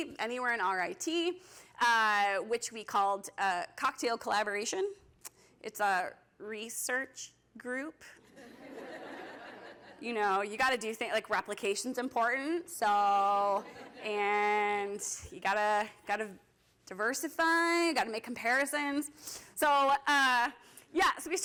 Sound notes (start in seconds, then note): 8.3 laughter